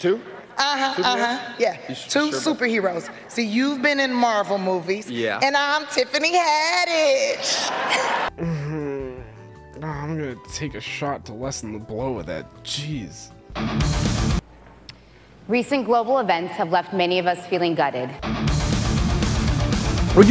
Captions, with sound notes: uh-huh, uh-huh, yeah, two superheroes. See you've been in Marvel movies, - Yeah. - and I'm Tiffany Haddish. (groans) - I'm gonna take a shot to lessen the blow of that, jeez. (rock music) - Recent global events have left many of us feeling gutted.